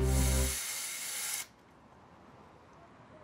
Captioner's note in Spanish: ruido al abrir cortinas